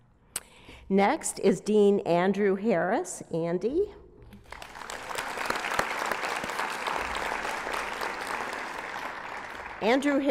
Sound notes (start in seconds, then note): 4.4 applause